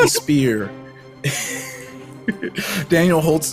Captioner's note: laughs